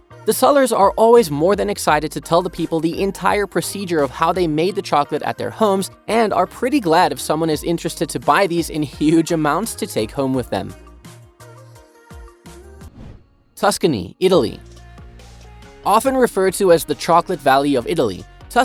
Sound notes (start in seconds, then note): 10.8 bright music continues; 12.8 air whooshing